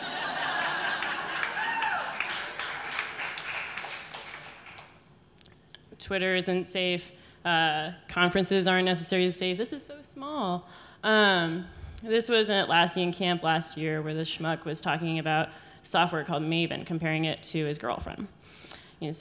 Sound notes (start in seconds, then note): 0.0 audience laughing; 3.4 audience clapping